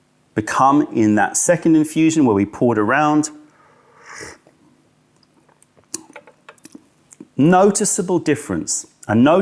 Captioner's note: sips tea